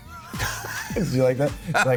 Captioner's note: both laugh